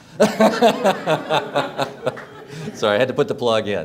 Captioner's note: laughs